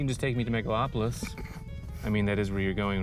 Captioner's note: scoffs